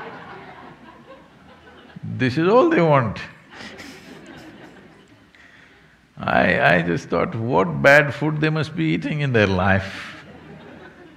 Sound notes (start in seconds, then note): 0.0 laughter; 3.4 laughs